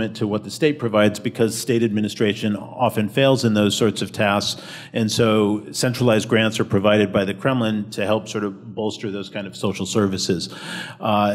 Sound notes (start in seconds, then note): none